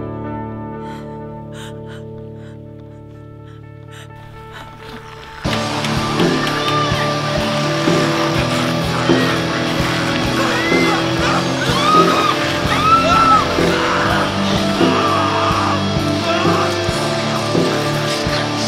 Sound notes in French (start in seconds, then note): 5.1 Les monstres rugissent et grognent; 10.7 Des gens hurlent au loin